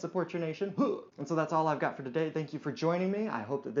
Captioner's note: huh!